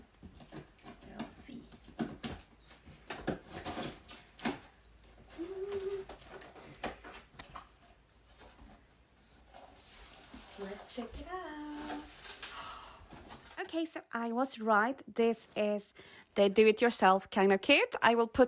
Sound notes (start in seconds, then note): 12.5 gasp